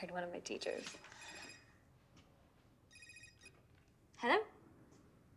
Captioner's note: cell rings